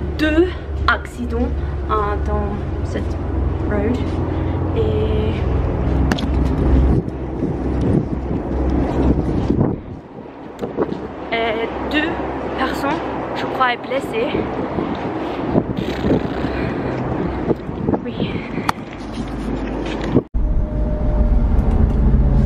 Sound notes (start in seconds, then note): 5.8 camera being handled and wind blows; 20.3 noise from driving throughout